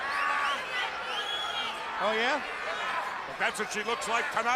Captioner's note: crowd chatter